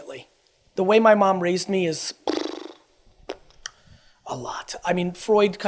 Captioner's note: blows through lips